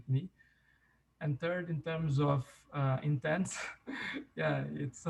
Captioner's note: chuckles